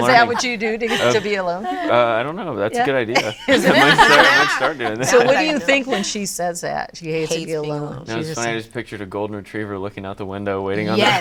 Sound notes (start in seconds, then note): 2.9 all laughing